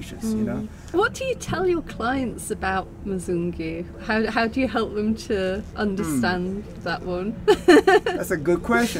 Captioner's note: laughing